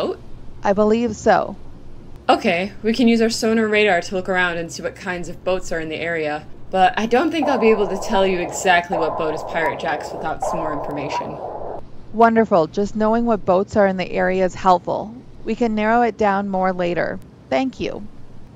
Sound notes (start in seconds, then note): 6.8 sonar blips in background